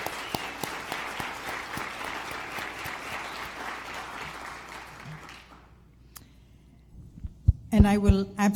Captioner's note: applause